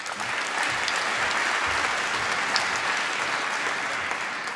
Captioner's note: applause